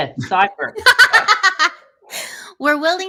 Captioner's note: laughing